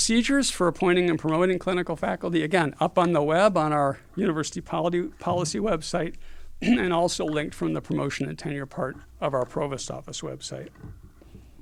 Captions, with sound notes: The procedures for appointing and promoting clinical faculty again up on the web on our university policy website. [COUGH] And also linked from the promotion and tenure part of our Provost Office website.